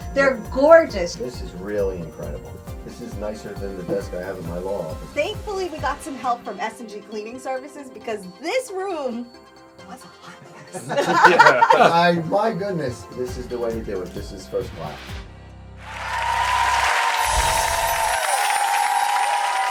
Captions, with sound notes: They're gorgeous! This is really incredible. This is nicer than the desk I have in my law office. Thankfully we got some help from S&G Cleaning Services because this room was a hot mess. (laughs) I... My goodness. This is the way they would... This is first fly. (audience cheering)